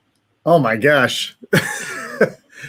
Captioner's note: laughs